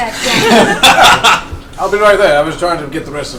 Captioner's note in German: Gelächter